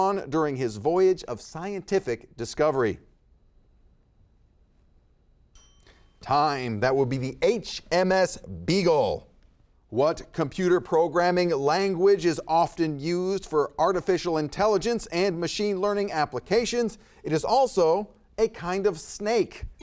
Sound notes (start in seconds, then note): 5.5 timer chimes